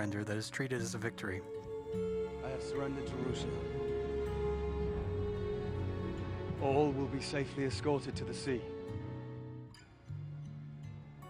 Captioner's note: crowd Cheers